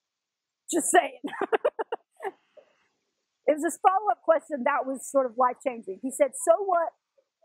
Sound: laugh

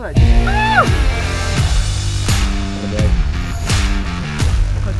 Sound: person cheering

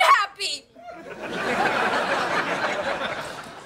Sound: laughing

